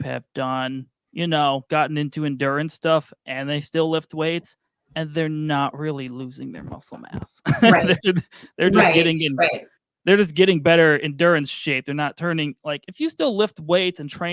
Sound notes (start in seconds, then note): 7.4 laughing